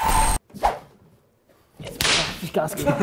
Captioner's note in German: Sausendes Geräusch; Lachen